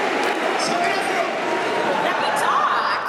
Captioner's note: speaking Japanese